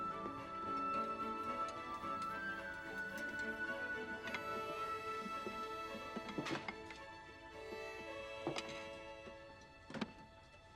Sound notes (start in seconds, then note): none